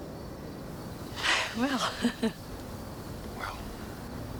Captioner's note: chuckles